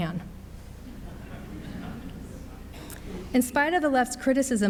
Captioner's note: audience laughs